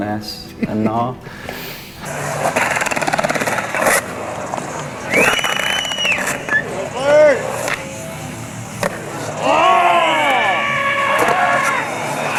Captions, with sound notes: it's called finesse and gnar. (laughs) (skating and crowd cheering)